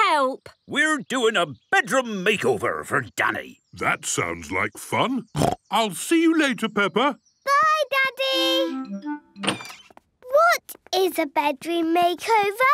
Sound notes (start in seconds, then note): 5.4 snorting